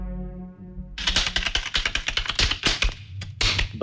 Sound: rattling

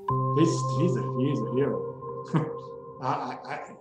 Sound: chuckles

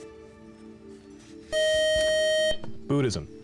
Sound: time-is-out buzzer

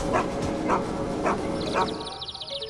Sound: birds chirp

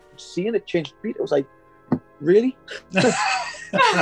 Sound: thump; laughing

